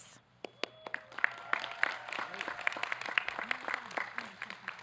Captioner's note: audience clapping